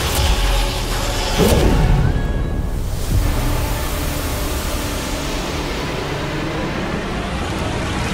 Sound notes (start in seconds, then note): 1.0 whooshing